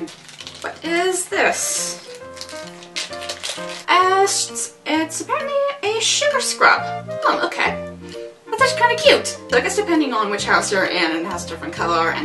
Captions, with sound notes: What is this...? *opening plastic bag* Ah, so it's- it's apparently a sugar scrub? Oh ok...? ....it's actually kind of cute. I guess depending on which House you're in it's a different colour